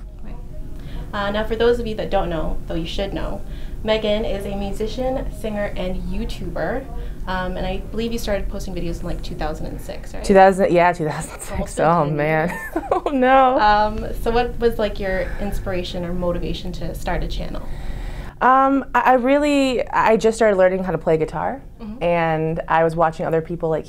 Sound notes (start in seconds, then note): 12.4 laughs